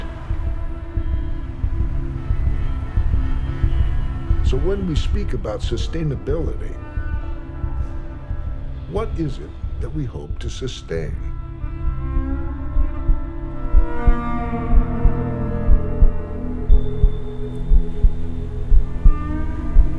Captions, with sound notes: [traffic hums] [horns honk] So when we speak about sustainability, what is it that we hope to sustain?